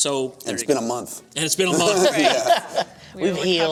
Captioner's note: laughter